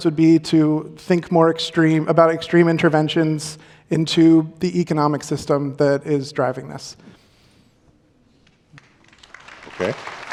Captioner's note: applause